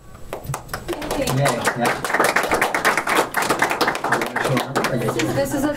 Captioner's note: applause